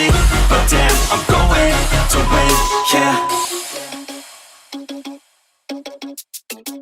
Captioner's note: timer beep